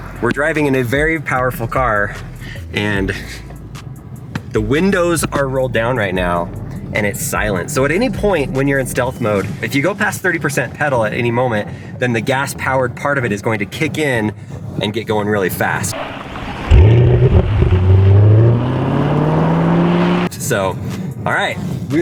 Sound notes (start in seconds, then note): 15.9 car engine revving